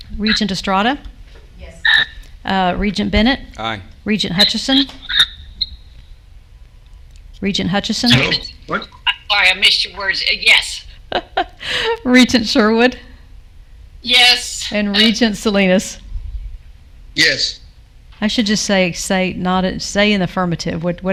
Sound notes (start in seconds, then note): 11.1 laughs